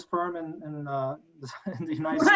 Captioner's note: multiple people laughing